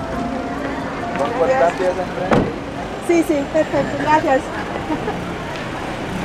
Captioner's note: in Spanish